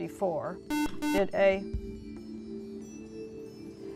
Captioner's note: buzzer